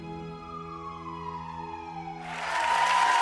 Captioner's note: sirens; clapping; musical chimes